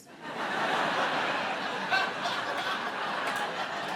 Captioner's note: audience laughing